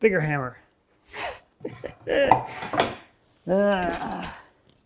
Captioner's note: laughing